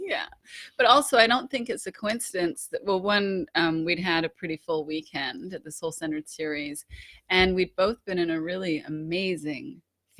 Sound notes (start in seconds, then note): none